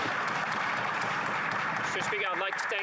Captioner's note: applause